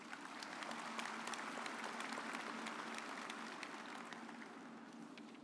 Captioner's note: audience applauds